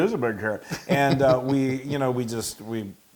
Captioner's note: laugh